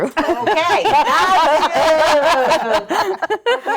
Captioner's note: laughing